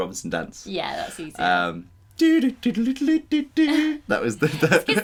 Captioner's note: Humming Swiss Family Robinson Tune